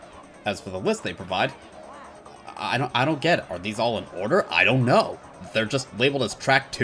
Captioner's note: stammering